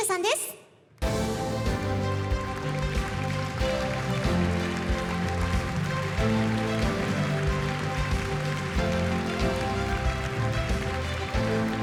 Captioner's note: applause